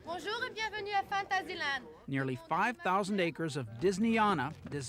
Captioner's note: speaking in French